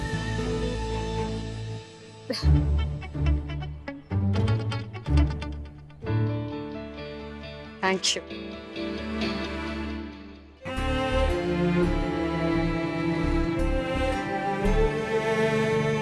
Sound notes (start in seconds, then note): 2.3 chuckles; 10.6 emotional music playing